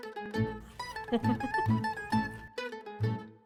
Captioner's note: bright upbeat music; giggles; bright upbeat music